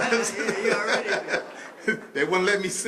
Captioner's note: laughter